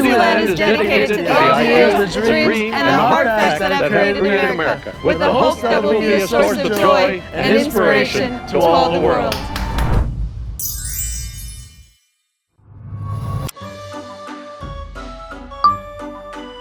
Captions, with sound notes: Disneyland is dedicated to the ideals, the dreams, and the hard facts that have created America with the hope that it will be a source of joy and inspiration to all the world. (group clapping) (sparkling sound effect) (carnival music)